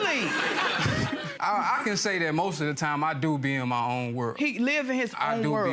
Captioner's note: audience laughter